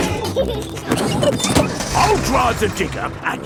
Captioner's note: peppa and george laughing